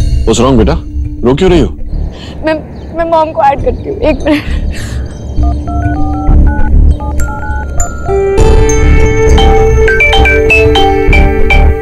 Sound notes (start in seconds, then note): 5.4 Dial tone; 9.3 Cell phone ringing